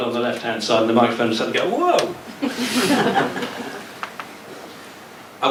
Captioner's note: laughter